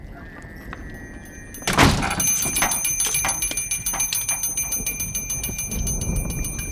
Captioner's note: door slams shut. Bell tinkles